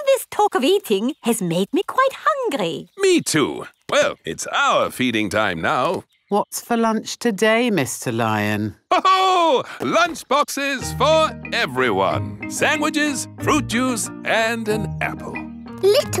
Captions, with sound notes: All this talk of eating has made me quite hungry. Me too! Well, it's our feeding time now! What's for lunch today, Mr. Lion? (LAUGHS) Lunch boxes for everyone! Sandwiches, fruit juice, and an apple!